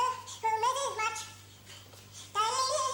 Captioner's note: humming